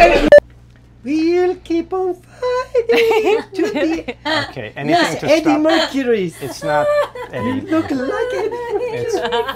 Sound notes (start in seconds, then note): 1.3 singing; 2.8 laughing; 6.3 laughing